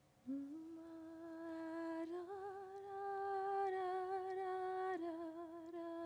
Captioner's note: voice hums wedding march